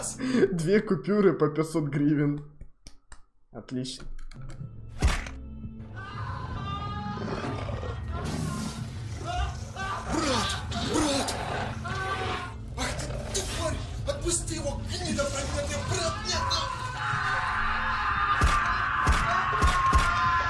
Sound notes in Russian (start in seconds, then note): 4.8 звук удара или типо того; 6.0 звуки убийство